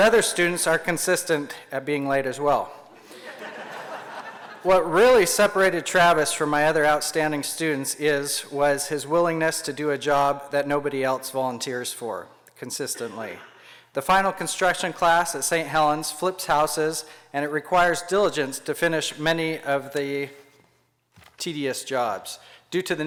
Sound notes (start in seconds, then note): 3.0 laughter